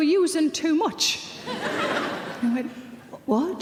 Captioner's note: audience laughing